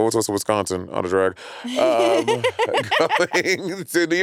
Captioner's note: laughing